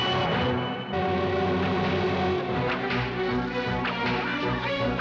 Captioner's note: whip cracking; barking commands in strange language